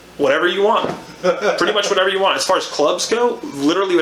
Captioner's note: laughs